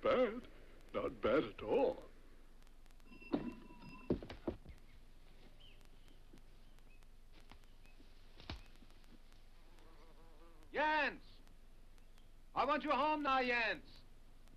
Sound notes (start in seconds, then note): 4.4 birds chirping; 9.6 bee buzzes